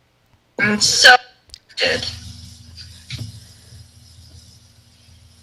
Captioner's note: faintly speaking